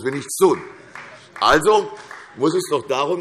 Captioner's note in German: Vereinzelter Beifall CDU